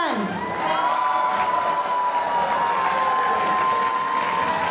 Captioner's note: audience cheering